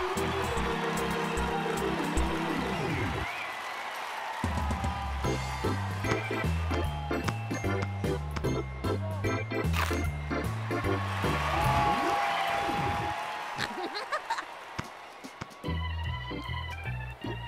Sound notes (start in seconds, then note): 2.2 cheers and applause